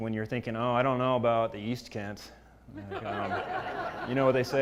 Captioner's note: laugh